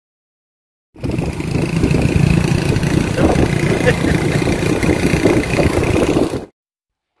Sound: vehicle noise

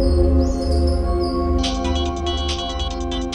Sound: phone ringing

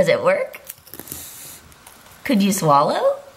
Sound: crunching

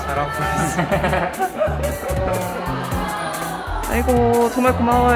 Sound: laughs

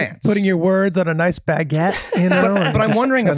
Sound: Meg laughs

